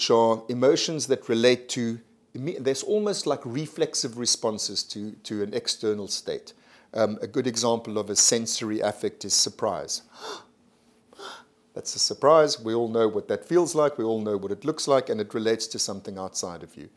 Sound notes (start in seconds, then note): 11.2 gasps